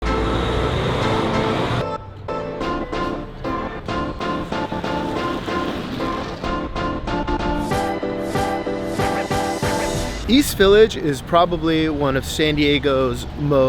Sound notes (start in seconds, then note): 0.6 car engine roars; 1.9 upbeat music